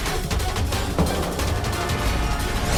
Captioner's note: thuds